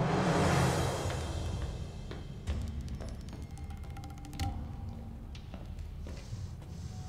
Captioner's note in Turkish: Ayak sesi